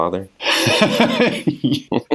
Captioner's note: laughs